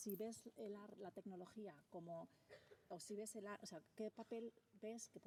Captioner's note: speaking spanish